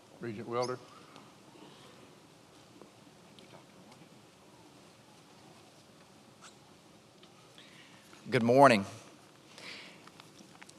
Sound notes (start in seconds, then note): none